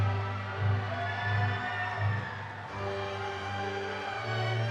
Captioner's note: audience cheering